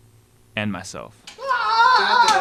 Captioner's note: screams